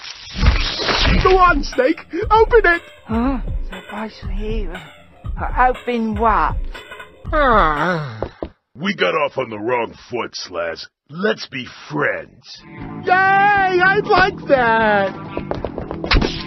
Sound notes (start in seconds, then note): 7.2 Slaz moans